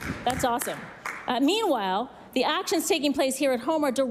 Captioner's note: some Applause